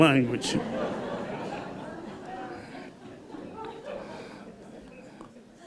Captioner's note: laughter